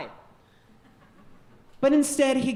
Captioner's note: audience chuckling